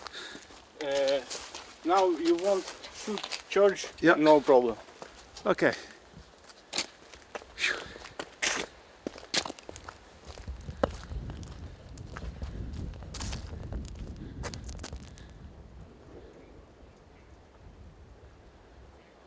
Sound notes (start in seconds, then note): 7.6 sighs; 11.4 wind roaring